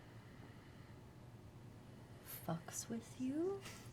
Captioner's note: none